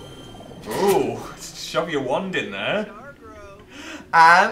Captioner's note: whirring sound